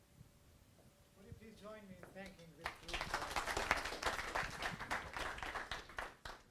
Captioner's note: audience applause